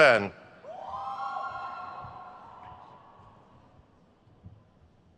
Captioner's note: crowd cheers